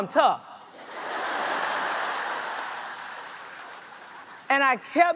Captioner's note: audience laughs